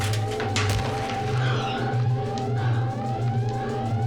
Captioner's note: Joe pants